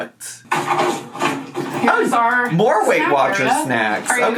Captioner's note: items shuffling